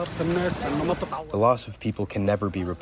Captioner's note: through translator